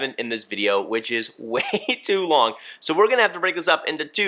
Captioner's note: laughs